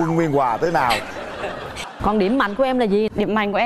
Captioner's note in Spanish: risas